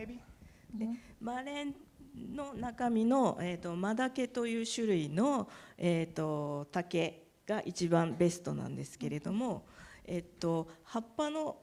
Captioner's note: speaking japanese